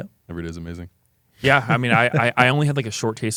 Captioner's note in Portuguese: risos